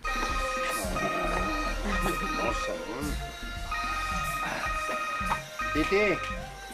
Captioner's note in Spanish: Sigue jadeando; Suena el celular